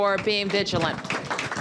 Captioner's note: applause